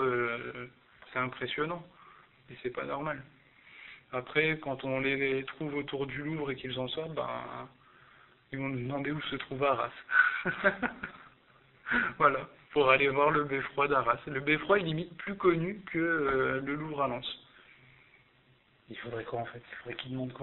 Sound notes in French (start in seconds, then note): 10.0 rire